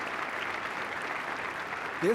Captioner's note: applause